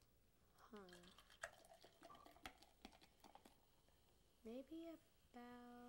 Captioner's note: pouring sound